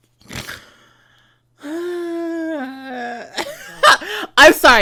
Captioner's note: snorts; laughs